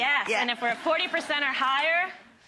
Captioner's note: audience laughing